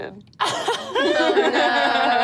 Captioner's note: audience laughs